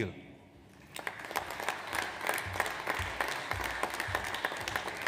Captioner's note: audience applauds